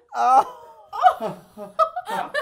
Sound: all laughing

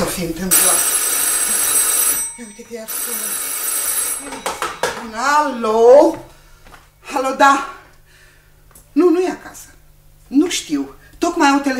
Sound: the phone rings

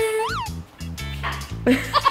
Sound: chuckling

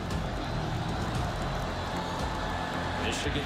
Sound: crowd cheering

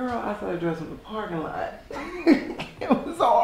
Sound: laughs

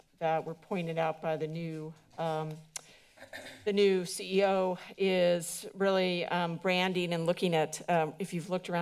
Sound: clearing throat

